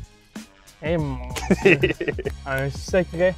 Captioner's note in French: rires